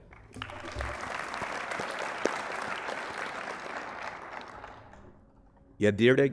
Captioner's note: applause